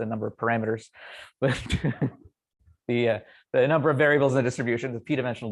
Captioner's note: laughs